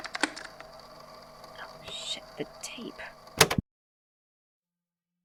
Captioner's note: tape recorder stops